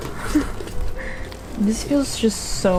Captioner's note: laughs